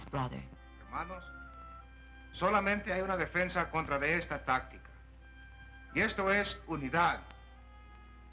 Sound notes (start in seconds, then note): 0.8 speaking spanish